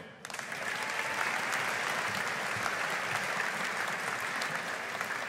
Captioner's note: audience applauding